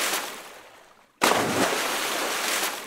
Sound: splash

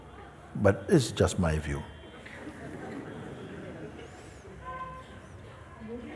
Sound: laughter

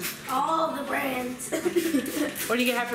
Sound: chuckling

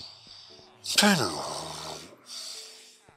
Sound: very strange sigh

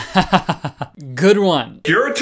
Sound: chuckles

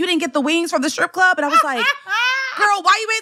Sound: laughter

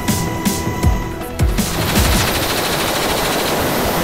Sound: blanks shots firing

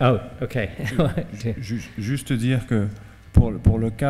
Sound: speaking french

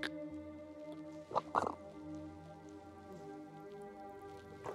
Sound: Brigit gulping

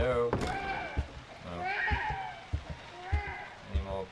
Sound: baby crying

